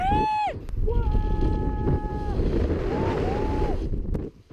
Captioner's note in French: cri en écho